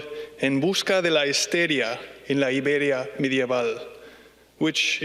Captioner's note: speaking in foreign language